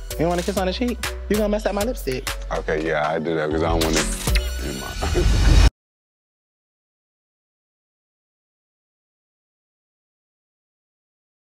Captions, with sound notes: You don't wanna kiss on the cheek? You gonna mess up my lipstick? - Okay, yeah, I'll do that 'cause I don't wanna. (lips smacking) Nevermind. (laughing)